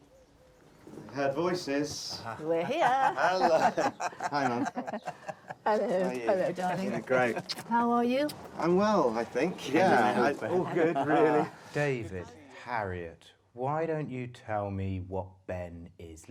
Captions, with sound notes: - I heard voices. We're here. [CHUCKLES] Hello, Mum. - Hello, darling. How are you? I'm well, I think, yeah. - David, Harriet, why don't you tell me what Ben is like?